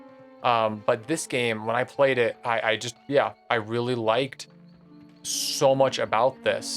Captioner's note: none